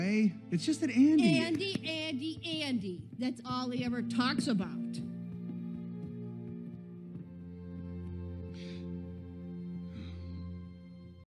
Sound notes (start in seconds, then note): 8.3 sighs in dismay